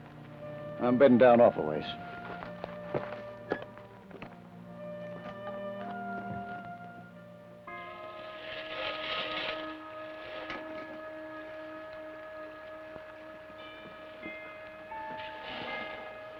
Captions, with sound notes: - I'm beddin' down off aways. (suspenseful orchestral music) (scraping)